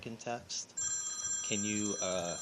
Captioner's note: phone rings